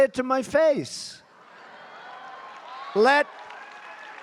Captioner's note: applause